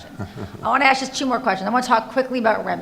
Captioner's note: laughing